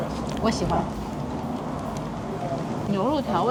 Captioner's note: crazy dripping juice